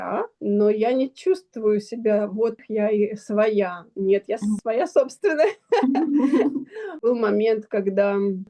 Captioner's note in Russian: смех; тяжело вздыхает